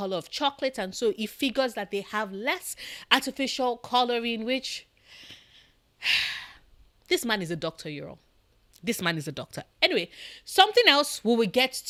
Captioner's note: sigh